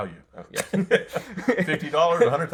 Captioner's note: laughter